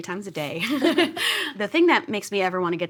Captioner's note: giggles